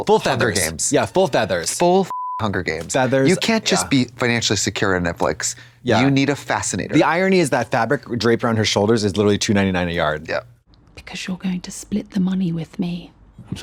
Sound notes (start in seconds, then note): 2.1 beep